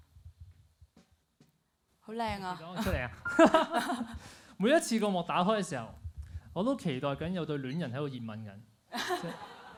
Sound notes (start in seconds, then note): 2.7 laughs; 9.0 laughs